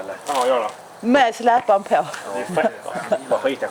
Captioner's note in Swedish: skratt